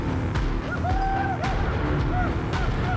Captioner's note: men whooping